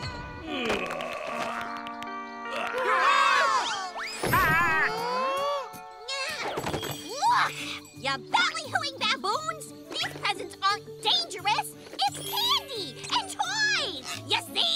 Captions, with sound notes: Ah! [shrieking] Huh? Look! You ballyhooing baboons! These presents aren't dangerous! It's candy and toys! You see!